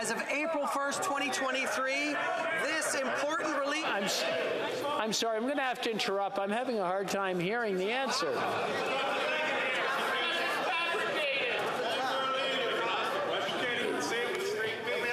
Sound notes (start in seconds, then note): 8.7 yelling